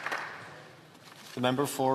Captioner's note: some Applause